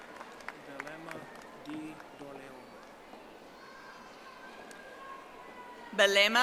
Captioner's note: audience applauding